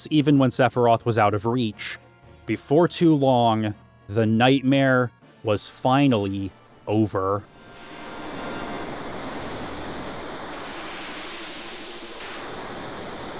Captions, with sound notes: even when Sephiroth was out of reach. Before too long, the nightmare was finally over. [hissing]